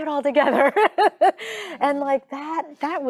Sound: laughing

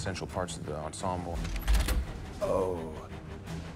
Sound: gun cocks

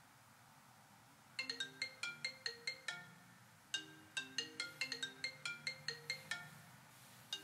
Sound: phone ringtone

